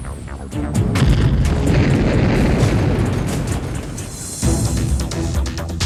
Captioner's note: bomb explodes; ominous music